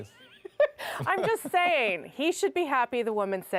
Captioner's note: laughter